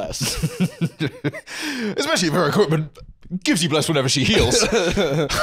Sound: laughing

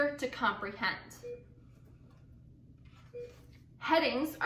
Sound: beeping

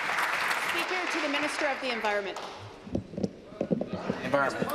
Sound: applause

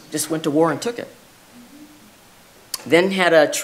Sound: none

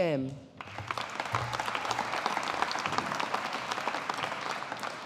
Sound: audience applauding

